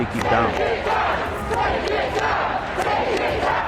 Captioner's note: crowd